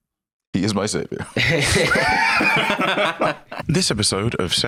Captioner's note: all laughing